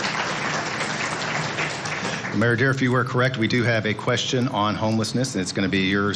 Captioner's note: applause